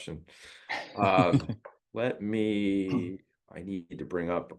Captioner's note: laugh